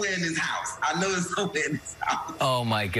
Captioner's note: laughter